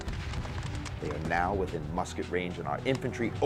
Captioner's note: voiceover